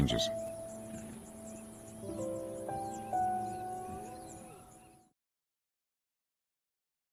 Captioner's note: somber music; wildebeest grunting